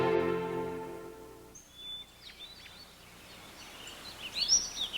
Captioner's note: birds chirping